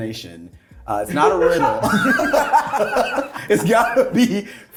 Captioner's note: cast laughing